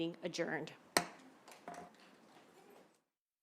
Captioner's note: gavel hitting dais